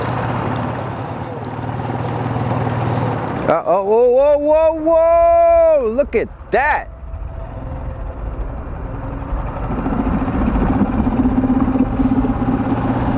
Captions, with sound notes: Oh, whoa, whoa, whoa, whoa! Look at that! (eerie music) (motor running)